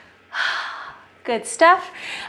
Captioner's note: exhales